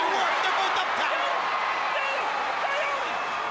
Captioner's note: crowd cheering